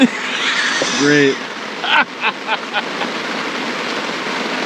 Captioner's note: all laughing